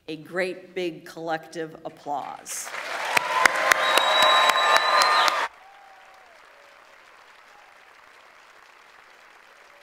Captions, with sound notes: a great, big, collective applause. (audience applauds and cheers) (audience members whistle)